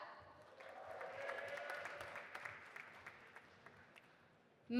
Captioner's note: audience applauding